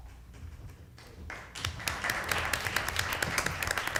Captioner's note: applause